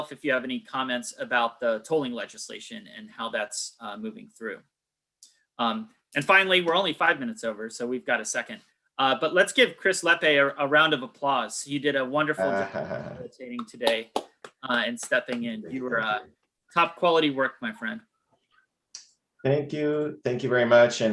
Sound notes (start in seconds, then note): 12.5 faintly speaking; 13.6 all clapping